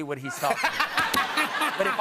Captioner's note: laughter